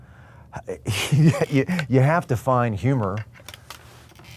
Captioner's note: chuckles